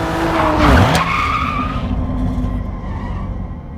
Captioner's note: car skids